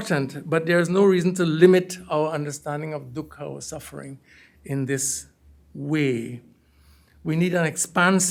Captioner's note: hindi